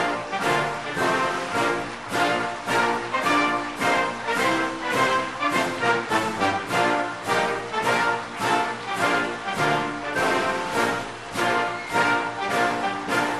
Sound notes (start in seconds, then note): 3.8 applause